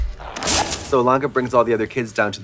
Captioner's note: bright electronic music; match strikes